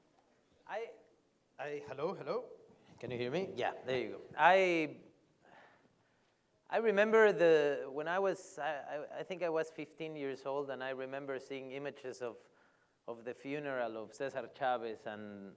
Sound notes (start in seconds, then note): 2.9 louder